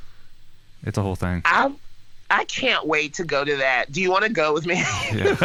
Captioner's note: laughs